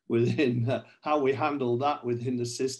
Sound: chuckles

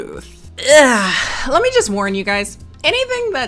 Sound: groans

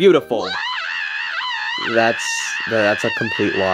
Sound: Toad screaming

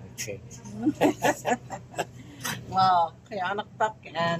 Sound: laughing

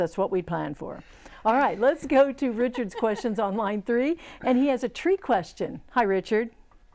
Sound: laughing

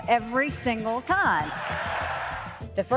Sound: cheers and applause

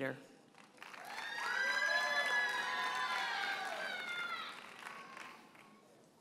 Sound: audience cheers and applauds

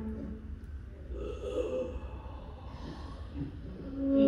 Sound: the sound of a gasp

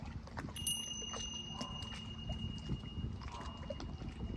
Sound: bells chiming

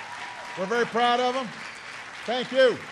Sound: applause

